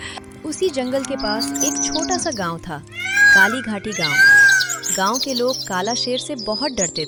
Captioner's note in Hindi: चीखने की आवाज़